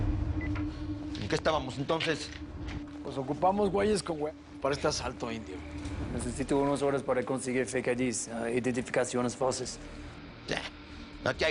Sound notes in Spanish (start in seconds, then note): none